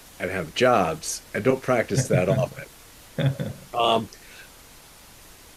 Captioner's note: chuckles